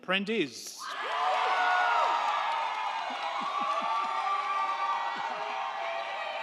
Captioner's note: crowd cheering; crowd clapping